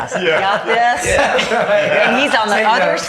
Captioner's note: laughing